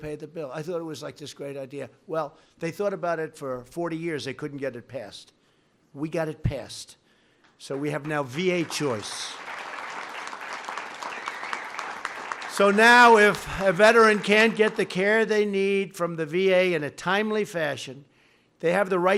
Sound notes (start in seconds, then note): 7.8 applause